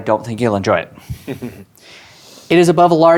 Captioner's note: chuckles